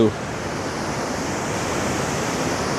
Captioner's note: water rushing